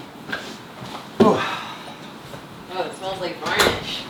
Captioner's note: sigh